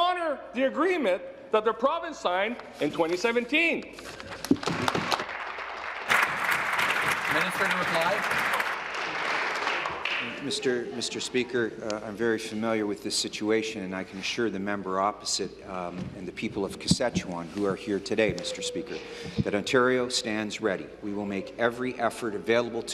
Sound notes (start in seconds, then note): 7.2 applause